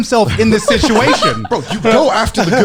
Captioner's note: laughing